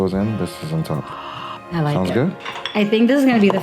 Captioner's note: gasps